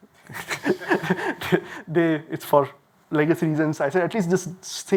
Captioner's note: laughs